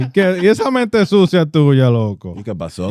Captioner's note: laughing; speaking In Foreign Language